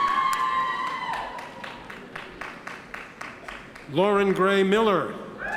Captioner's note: audience members cheer